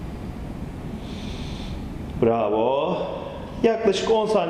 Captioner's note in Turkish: Nefes sesi